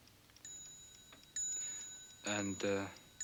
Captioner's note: clock bell ringing